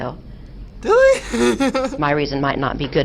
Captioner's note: laughs